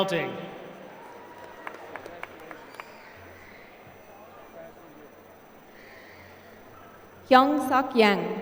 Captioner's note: applause